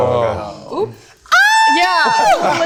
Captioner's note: screams